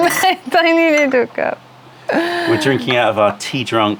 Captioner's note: laughter